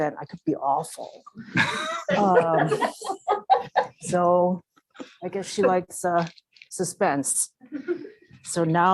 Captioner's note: laugh